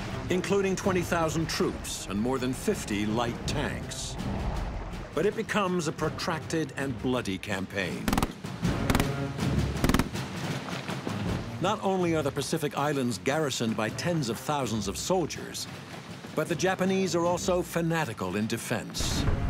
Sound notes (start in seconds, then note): 0.0 water splashing; 8.0 rapid machine gunfire